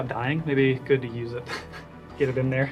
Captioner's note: laughs